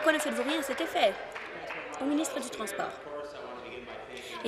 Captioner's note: applause